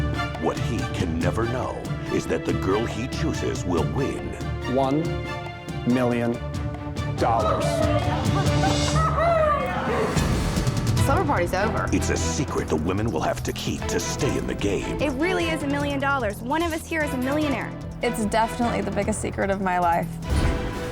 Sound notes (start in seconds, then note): 7.2 daters exclaiming